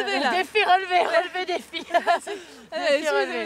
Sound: laugh

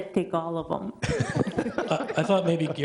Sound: all laughing

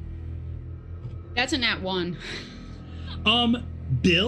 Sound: laughs

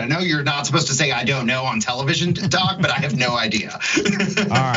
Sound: laugh

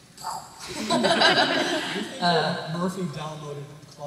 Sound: laughter

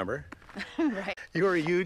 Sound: laughs

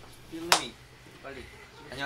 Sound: clap

